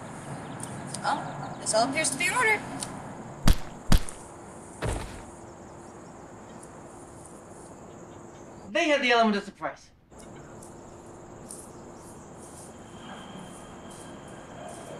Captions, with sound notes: - Oh. Well, this all appears to be in order. (fist swatting) (body thudding) - They had the element of surprise.